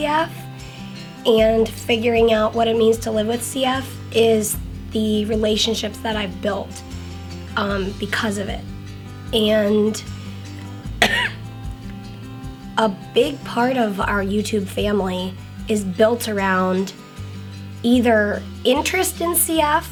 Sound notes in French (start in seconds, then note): 10.8 la toux